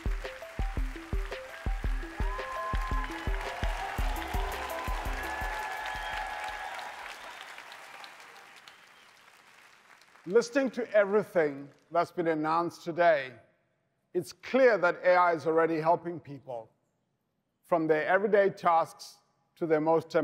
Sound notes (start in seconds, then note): 3.6 cheering, applause